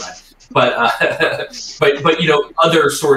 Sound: laughs

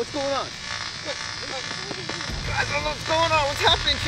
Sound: electric whizzing

